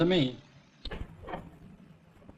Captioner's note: door opens